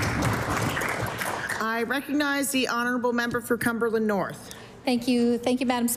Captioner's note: applause